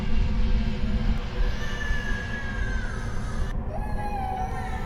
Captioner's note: muffled crying